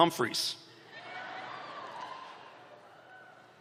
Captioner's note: cheering